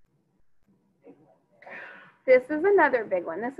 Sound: student speaking faintly

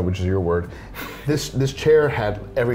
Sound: laughs

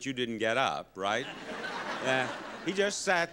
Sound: audience laughing

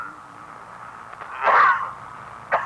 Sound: Luis coughing

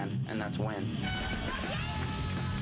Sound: horn toots

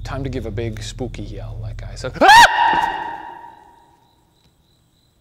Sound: screams

